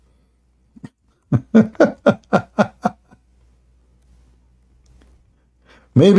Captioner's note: Ketawa